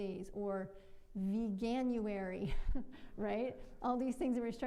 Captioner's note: chuckles